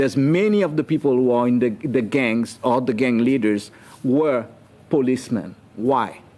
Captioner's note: speaking French